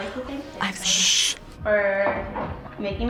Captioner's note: gasps